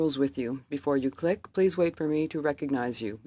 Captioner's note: speaking French